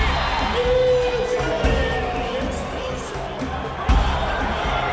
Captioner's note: cheering